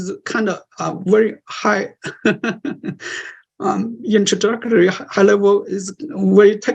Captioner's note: laughter